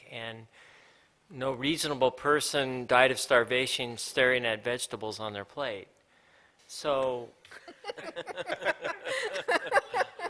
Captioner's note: laughter